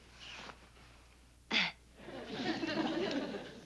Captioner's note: chuckles